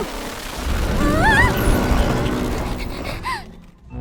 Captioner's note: screams; panting; laughs nervously